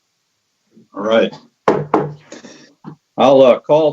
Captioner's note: gavel bangs